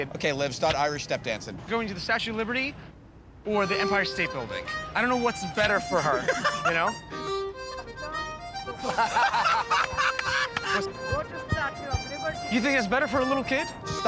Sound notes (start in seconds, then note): 8.8 laughter